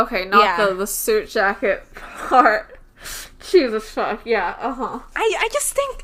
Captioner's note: laughs